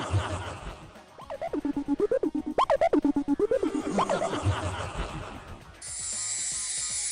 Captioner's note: menacing echoing laugh; bleeps and blips interspliced with laughter